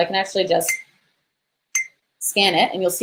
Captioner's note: beep